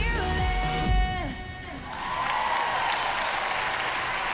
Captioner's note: audience whoops, applauds